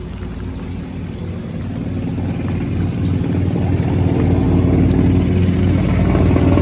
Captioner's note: the helicopter gets closer and louder